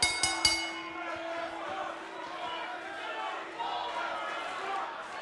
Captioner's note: bell